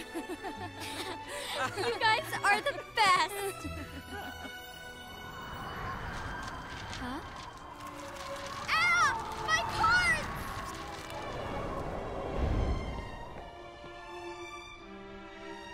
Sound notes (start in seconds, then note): 0.2 sighs; 4.8 wind blowing